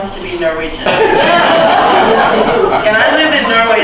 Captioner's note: laughter